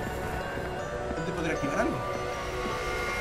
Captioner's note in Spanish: none